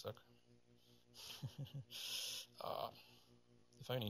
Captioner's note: chuckles